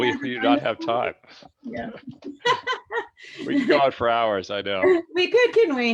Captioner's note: laughs